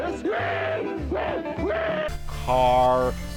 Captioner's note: screams